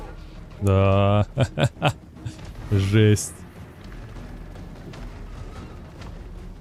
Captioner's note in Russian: смех